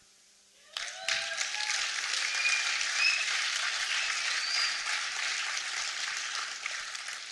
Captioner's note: applause